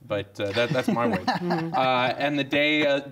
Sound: man laughs

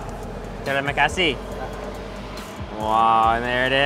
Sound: speaking in foreign language

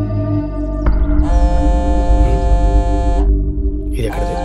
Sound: phone buzzing

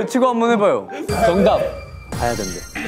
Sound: shouting confidently

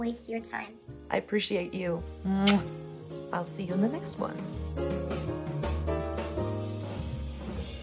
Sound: smooch

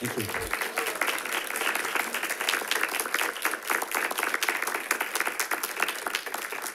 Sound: audience applauding

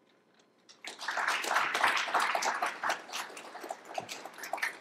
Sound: applause

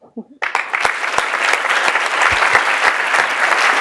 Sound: applause

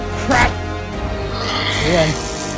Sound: Dilophosaurus hissing

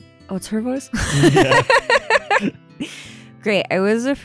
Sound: laugh

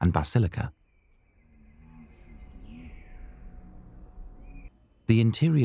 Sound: birds Whispering

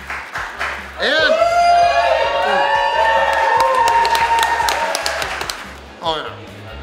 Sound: cheering & Clapping

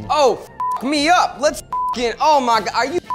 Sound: beep

